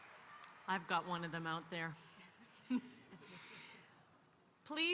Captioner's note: laughs